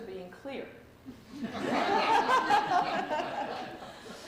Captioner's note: laughter